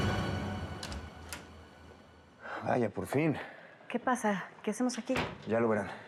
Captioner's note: ruido al entrar